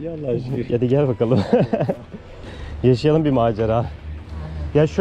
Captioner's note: laughs